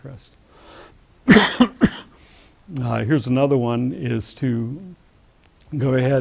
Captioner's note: cough